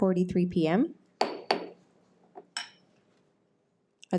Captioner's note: gavel bangs